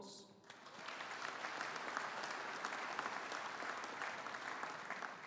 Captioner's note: audience applauding